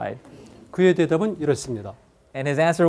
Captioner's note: speaking in Korean